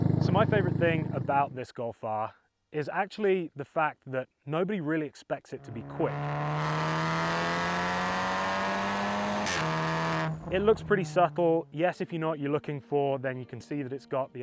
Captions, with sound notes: so my favorite thing about this golf r is actually the fact that nobody really expects it to be quick *Golf R XFORCE exhaust pull* it looks pretty subtle yes if you know what you're looking for then you can see that it's got the